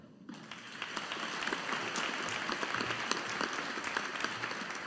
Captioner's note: audience applauding